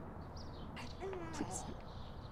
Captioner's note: baby coos